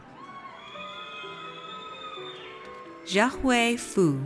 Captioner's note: audience cheers